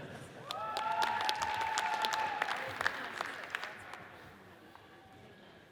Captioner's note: audience cheers and applauds